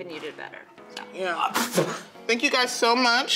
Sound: fake sneezes

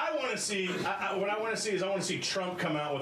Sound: laughter

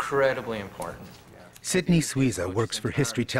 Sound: voiceover

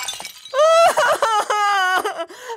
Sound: cries

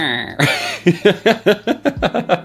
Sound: laughter

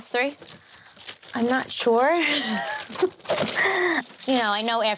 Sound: nervous laughing

